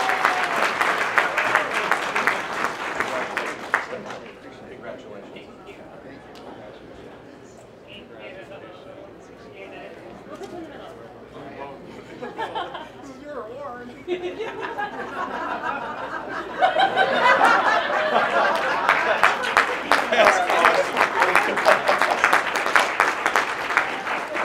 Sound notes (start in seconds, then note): 0.0 applause; 12.2 laughing; 20.3 applause